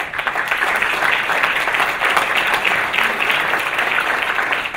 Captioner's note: audience applause